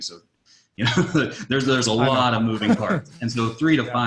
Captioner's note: laughs